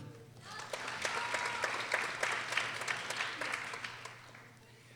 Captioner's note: people applauding